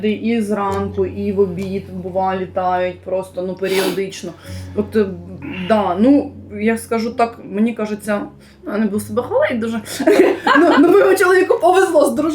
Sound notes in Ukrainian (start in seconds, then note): 3.7 сопіння; 5.5 прочищення горла; 9.8 сміх